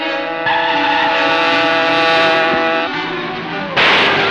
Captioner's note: engine revving; tires squealing; gun exploding